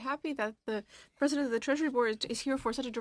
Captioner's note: speaking in french